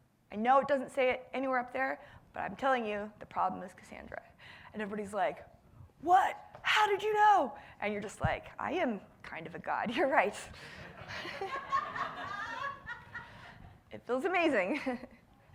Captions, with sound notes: I know it doesn't say it anywhere up there, but I'm telling you the problem is Cassandra. And everybody's like, what, how did you know? And you're just like, I am kind of a god, you're right. (audience laughing) It feels amazing.